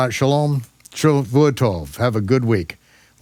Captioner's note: speaks Hebrew